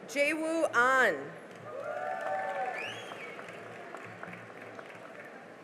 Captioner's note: cheering and applause